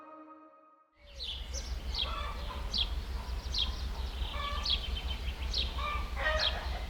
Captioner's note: birds chirping